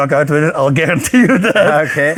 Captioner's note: laughs